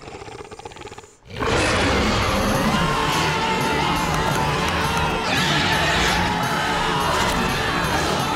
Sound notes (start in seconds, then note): 1.5 growling; 2.8 screaming